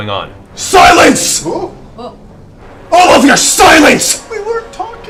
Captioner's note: shouts